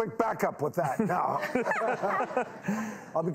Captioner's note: audience laughs